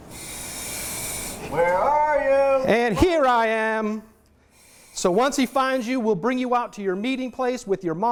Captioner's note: firefighter in mask breathing air speaking